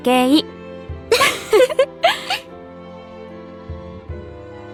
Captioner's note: chuckle